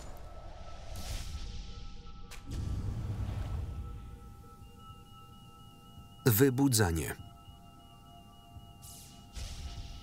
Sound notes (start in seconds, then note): 1.0 alarm sounding; 3.9 device beeping